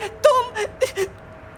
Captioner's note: cries